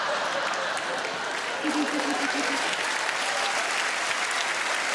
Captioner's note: audience laughing; audience clapping